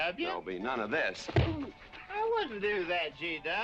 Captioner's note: grunts